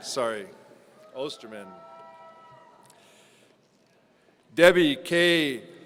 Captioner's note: audience cheering